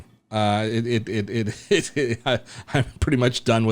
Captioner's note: laughs